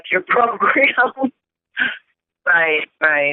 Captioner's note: chuckle